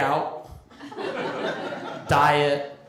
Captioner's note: laughter